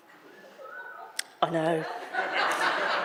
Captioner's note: audience member wolf whistles; audience laughter